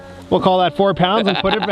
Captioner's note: laughs